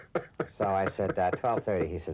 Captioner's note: reporter laughing